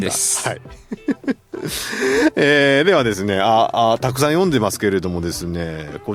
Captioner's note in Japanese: 笑い